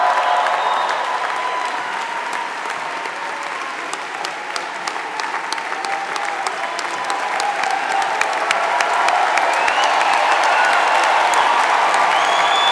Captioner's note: applause